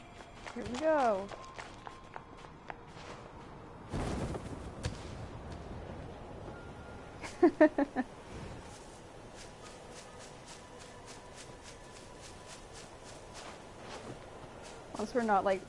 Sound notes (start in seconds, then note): 7.3 laughs